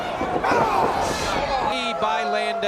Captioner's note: Shawn groans